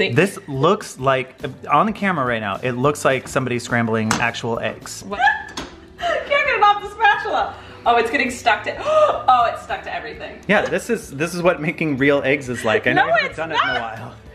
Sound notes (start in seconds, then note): 5.1 laughs; 9.1 gasps